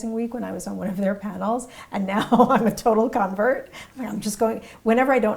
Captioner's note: laugh